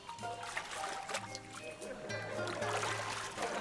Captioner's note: water sloshes